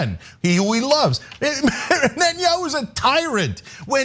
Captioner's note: laugh